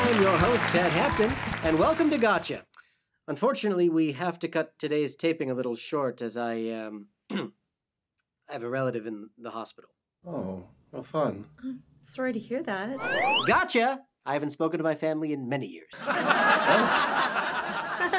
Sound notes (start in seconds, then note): 7.2 clears throat; 13.0 slide whistle; 16.0 audience laughs